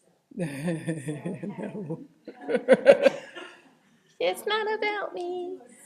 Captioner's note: laughs